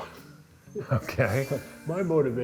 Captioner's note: laughing